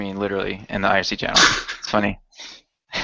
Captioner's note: laughs; chuckles